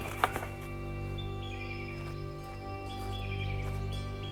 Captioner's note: footsteps echo